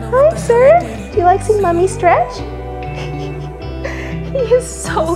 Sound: giggles

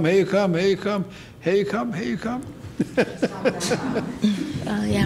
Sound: softly laughing

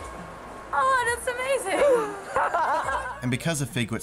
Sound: laughs

